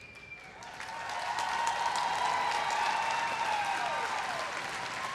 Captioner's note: everyone cheering and applauding